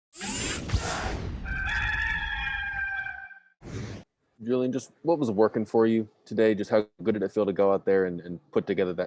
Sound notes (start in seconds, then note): 1.4 rooster crowing